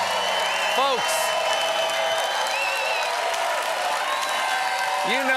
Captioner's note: cheers and applause